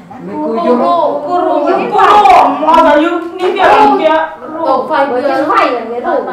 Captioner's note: chattering